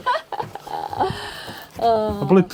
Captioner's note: laughing